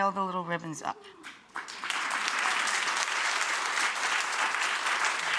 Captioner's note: audience applauding